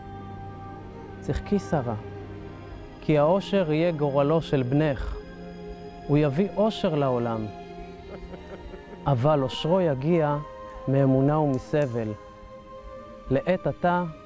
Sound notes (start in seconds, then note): 3.7 speaking in Hebrew